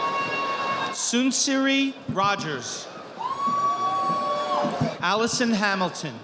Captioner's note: audience applauding; audience applauding